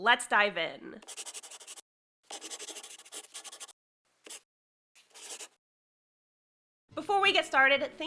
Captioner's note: the sound of a pen scratching. LOGO